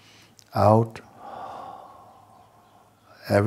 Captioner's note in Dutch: lange uitademing